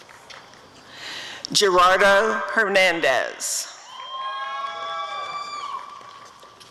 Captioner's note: applause and cheering